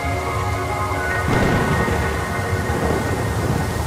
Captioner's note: thunder cracks